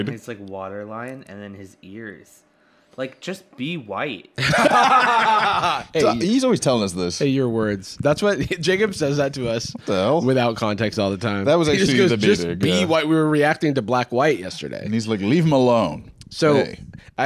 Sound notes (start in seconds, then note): 4.4 both laughing